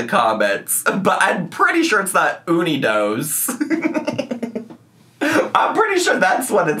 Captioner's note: laughing